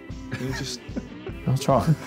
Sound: giggling

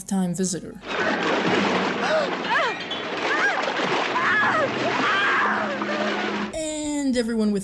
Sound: Betts screaming and water splashing

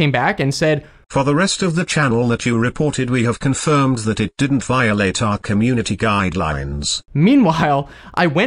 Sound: TTS Voice

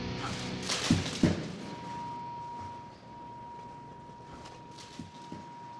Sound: sword humming

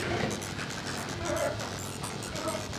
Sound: Barry wailing

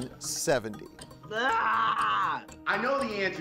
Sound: groaning

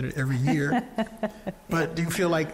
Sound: laughing

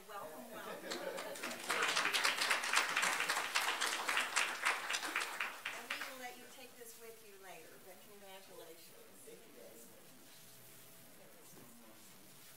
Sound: applause

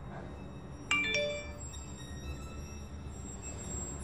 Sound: text alert

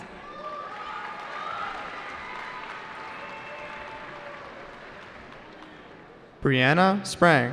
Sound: cheering

